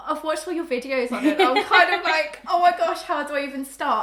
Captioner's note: laughs